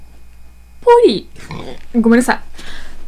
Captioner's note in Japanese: げっぷの音